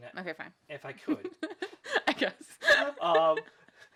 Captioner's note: laughs